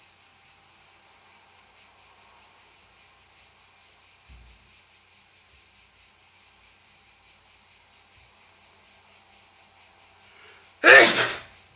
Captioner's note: sneeze